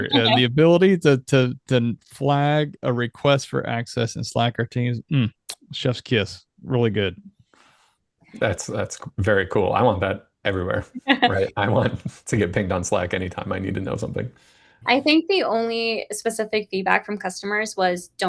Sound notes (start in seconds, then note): 11.0 laughs